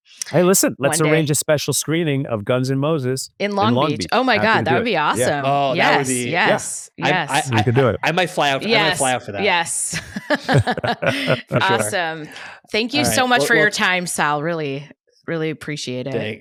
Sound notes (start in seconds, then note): 9.8 laughs